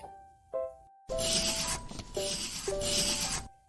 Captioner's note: pencil scratching